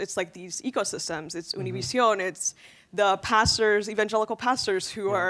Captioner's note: speaking in Spanish